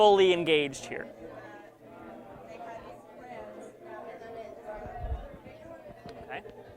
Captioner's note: background Discussion